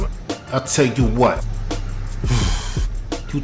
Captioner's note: breathes